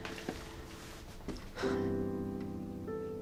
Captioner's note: sighs